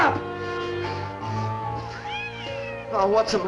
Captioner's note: cat Meows